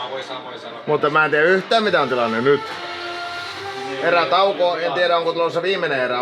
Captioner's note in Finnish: taustapuhetta